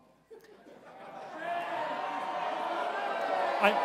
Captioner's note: crowd shouting indistinctly